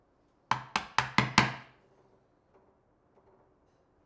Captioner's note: woods smacking